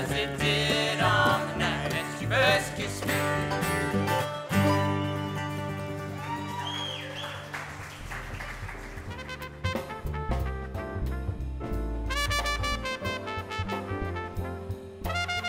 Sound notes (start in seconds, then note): 5.7 applause; 5.8 cheering; 9.4 jazzy music